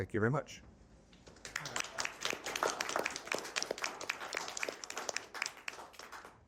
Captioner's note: applause